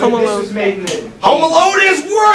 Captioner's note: click?